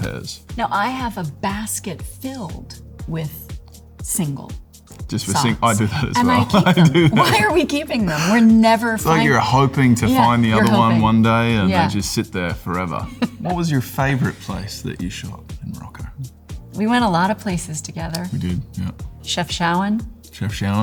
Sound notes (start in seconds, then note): 7.1 laughing